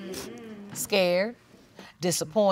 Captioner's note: audience agreeing